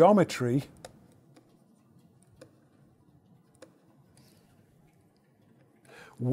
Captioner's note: stylus tapping against screen